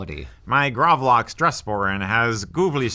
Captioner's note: in alien voice